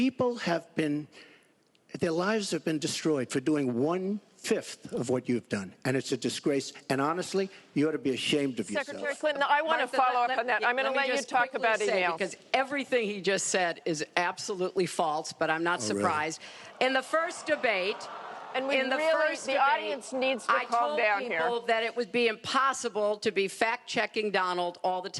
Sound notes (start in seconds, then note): 17.2 laughter